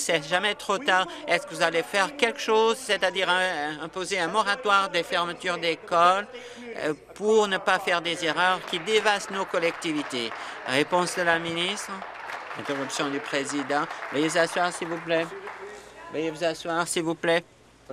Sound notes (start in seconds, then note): 11.8 applause